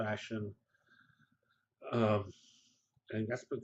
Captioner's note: pause